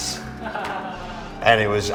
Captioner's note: laughs